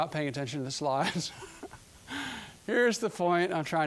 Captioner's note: chuckling